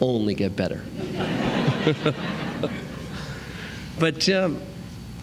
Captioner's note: laughter